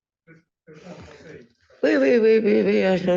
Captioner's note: speaking french